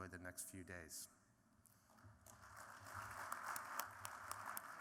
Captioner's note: applause